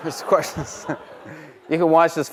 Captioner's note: chuckling